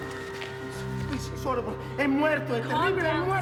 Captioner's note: man speaks foreign language